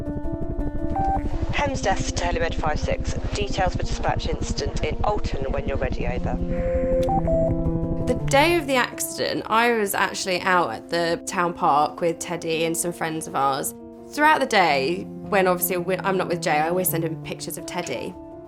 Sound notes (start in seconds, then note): 0.9 radio beep; 6.5 radio beep